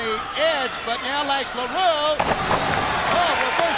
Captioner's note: crowd cheering